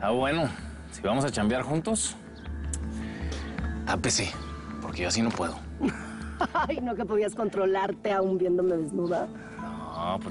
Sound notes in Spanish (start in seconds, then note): 5.8 Ríe